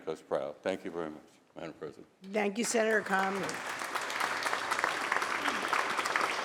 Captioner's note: applause